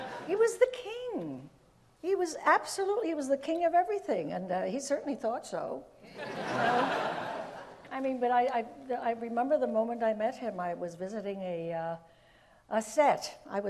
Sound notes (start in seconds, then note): 6.1 audience laughs